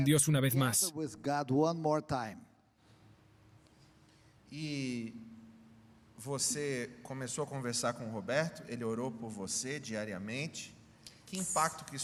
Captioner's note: Hablando idioma extranjero